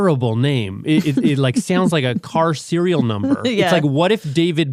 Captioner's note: laughs